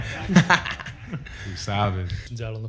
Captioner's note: laughter